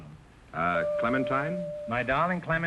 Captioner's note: chime rings